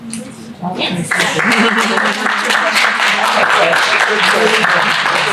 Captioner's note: applause, audience murmuring